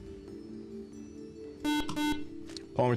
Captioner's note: beeping